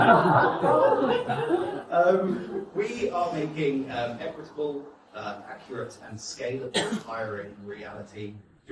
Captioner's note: guests laugh more